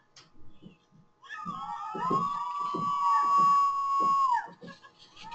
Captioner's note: students on the ground cheer as swings through the air